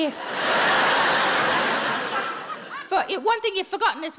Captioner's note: audience laughing